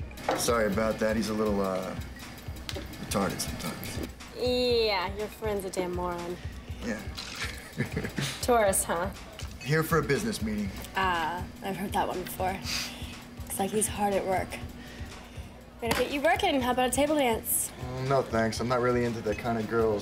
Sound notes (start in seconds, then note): 7.2 chuckles; 7.2 laughs